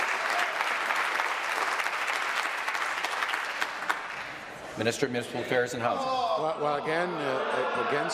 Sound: applause

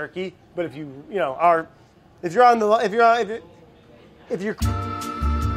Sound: stumbles on words; peppy interlude music

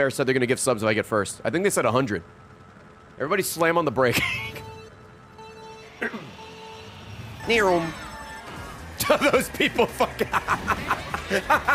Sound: laughs

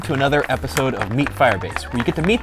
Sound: applause

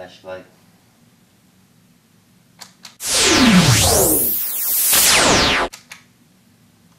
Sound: light beam sound

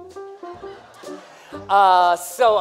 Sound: laughter

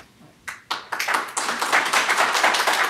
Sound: applause

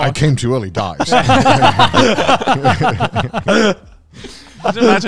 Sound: everyone laughs

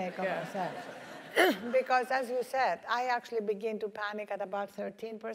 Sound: laugh

